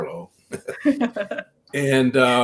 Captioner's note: laughing